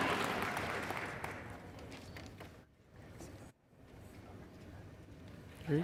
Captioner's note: cheers and applause